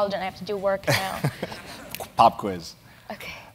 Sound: laugh

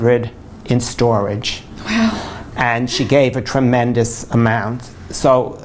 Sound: laughs

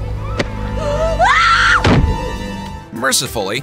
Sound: screams

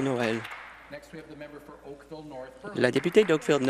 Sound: applause

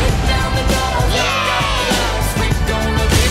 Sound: cheering

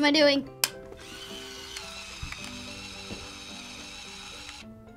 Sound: flim whirs inside

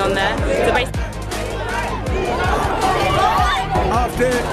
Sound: crowd shouting

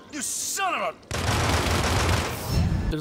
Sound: gunshots

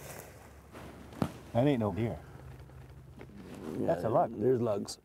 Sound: voiceover

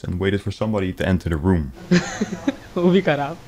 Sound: in Hindi

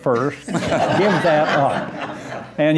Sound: laughter

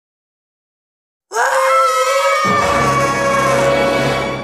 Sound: screams

